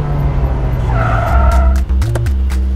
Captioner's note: Car halting; Car door opens